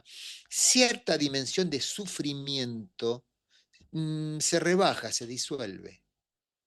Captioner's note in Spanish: resoplido